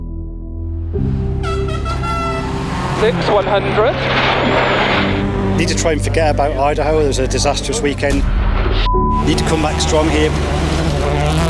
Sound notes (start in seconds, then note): 0.4 dramatic music; 1.0 horn beeping